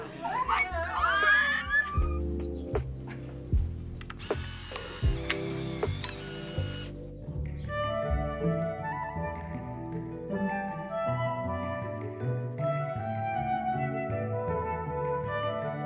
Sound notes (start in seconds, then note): 2.3 gentle music; 4.2 camera shutter clicking; 7.6 whimsical music